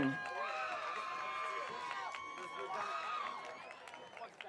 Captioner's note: audience cheering